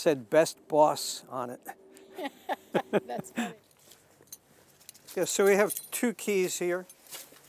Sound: laughing

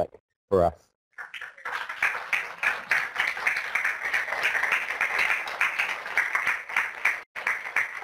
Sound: applause

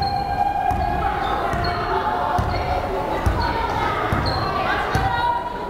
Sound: crowd chattering

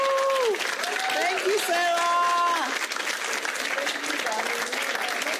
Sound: audience applauding

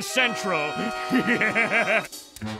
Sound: evil laugh

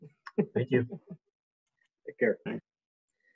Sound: giggles

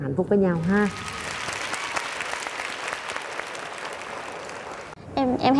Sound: applause

